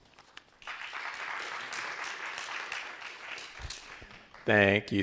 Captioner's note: crowd applauding